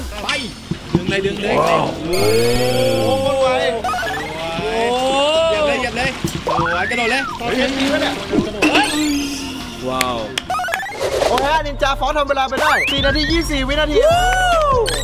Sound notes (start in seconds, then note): 1.1 cheering; 9.0 applauding; 14.2 applauding